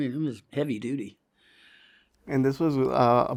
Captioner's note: inhales